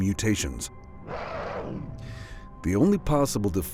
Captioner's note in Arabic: هدير المخلوق